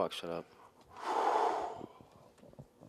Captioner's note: heavy sigh